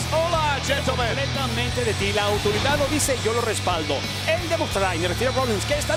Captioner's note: speaking Spanish; speaking in Spanish